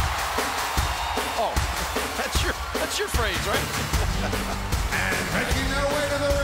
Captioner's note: laughs